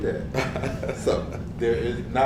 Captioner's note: laugh